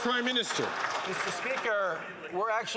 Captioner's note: some Applause